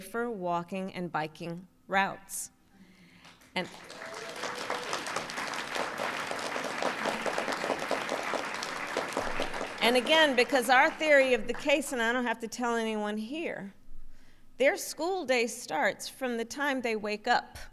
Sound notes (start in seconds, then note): 6.1 applause